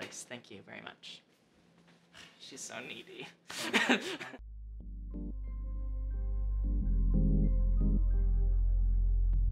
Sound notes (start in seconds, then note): 3.6 laughs; 4.4 chilled music